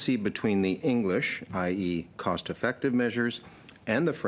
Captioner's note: speaking French